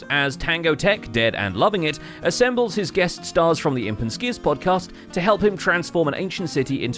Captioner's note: none